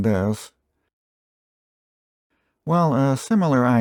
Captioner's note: dramatic pause